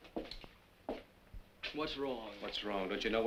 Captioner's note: none